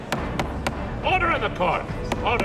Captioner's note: courtroom murmurs